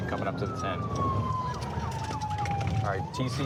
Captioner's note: sirens